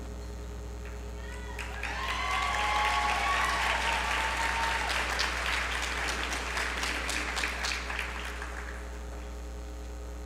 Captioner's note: applause